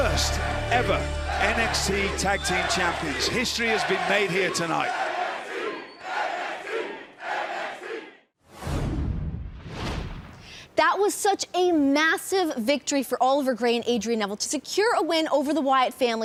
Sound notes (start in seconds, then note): 6.9 crowd cheering